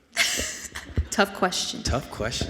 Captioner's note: laughs